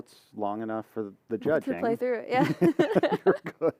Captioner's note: laughter